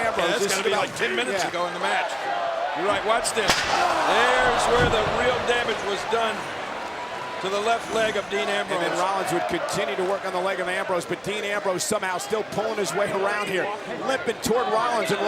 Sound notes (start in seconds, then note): none